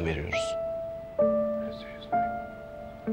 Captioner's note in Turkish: Fısıldaşıyorlar